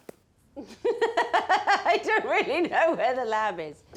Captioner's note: laughs